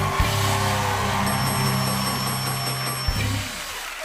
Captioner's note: cheers and applause; bell dings